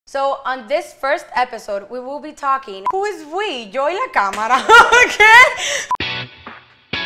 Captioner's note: laugh